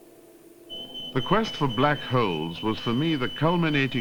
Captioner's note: beeping